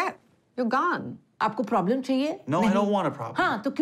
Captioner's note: speaking Hindi